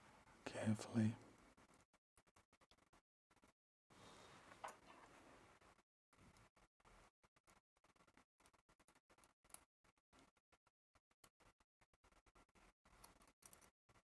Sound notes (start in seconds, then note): 3.9 silence